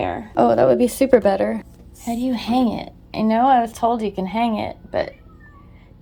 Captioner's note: meow